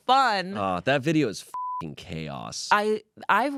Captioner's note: beep